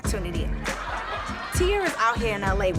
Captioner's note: crowd laughing